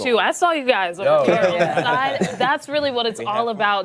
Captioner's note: laughter